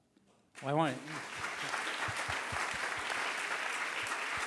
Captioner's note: applause